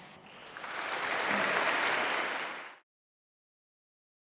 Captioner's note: audience clapping